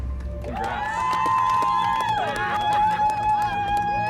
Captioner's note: cheering